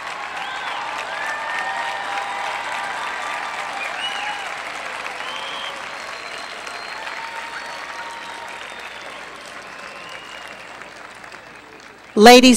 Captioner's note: applause